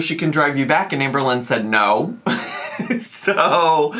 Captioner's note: laughs